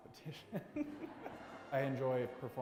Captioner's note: chuckling